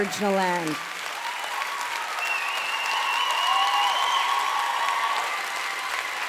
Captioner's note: audience cheering and applauding